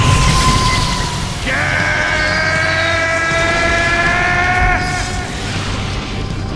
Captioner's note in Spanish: Gritos